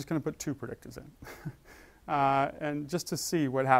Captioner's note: laugh